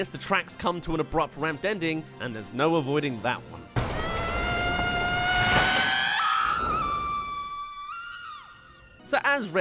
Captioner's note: reacts* *Screams